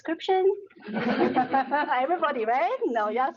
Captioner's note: laughing